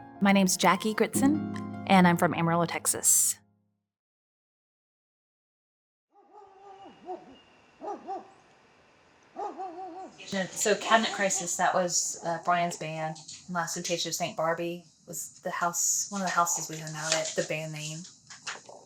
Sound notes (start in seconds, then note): 0.0 gentle music; 7.8 dog barking